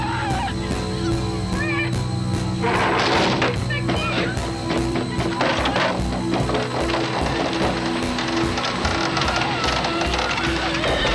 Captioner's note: screaming; dramatic Music; gun Fires